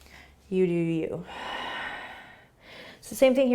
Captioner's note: exhaling